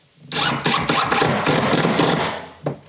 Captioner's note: electric drill sound